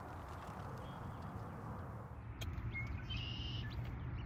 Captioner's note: birds chirp